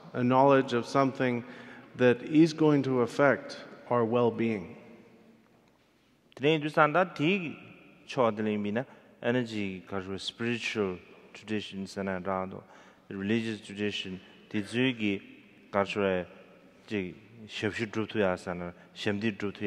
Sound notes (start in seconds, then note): 6.5 speaking in foreign language